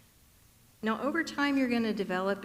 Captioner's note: none